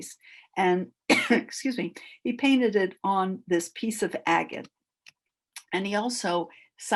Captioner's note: coughs